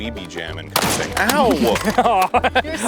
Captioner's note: pew